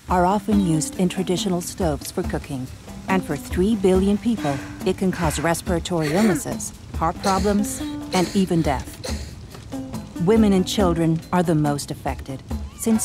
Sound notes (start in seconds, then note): 7.2 distressed coughing; 10.1 fire crackling